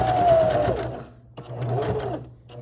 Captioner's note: sewing machine hums